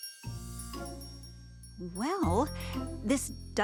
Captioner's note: bell jingling